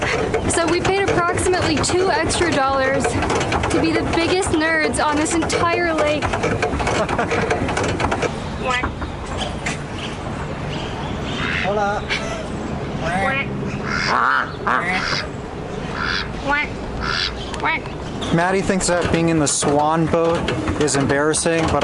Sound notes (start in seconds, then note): 6.8 laughs; 8.6 imitating duck sound; 13.0 imitating duck sounds